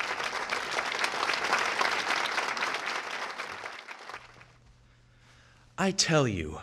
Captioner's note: applause